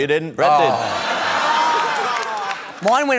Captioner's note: laughter